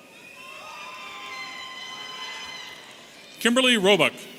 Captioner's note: audience cheering